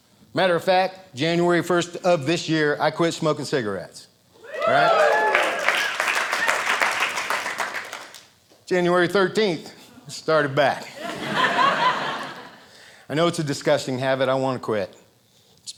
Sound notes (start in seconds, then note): 4.4 audience cheering; 4.4 audience applauding; 10.9 audience laughing